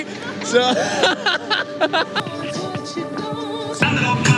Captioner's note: laughs